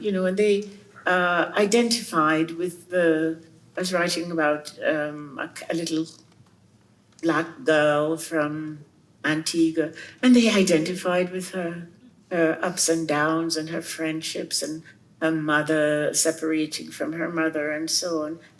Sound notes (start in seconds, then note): none